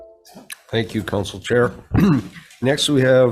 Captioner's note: clearing throat